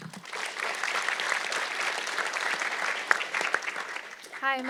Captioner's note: audience clapping